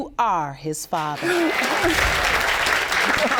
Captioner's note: audience applauding; both laughing